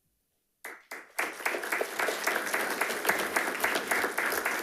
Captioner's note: attendees clapping